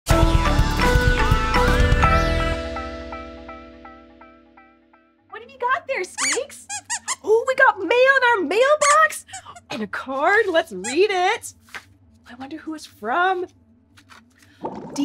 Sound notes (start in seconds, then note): 6.2 squeaks squeaks